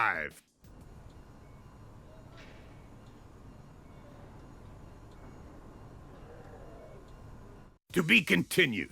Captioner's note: complete silence